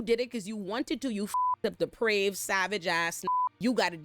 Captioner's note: beep